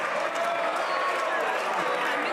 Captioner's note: some Applause